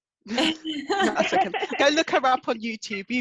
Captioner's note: both chuckle